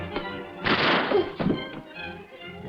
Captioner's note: gun firing; groaning